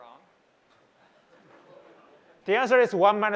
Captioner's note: laughter